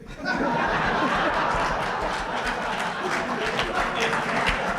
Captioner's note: laughter, applause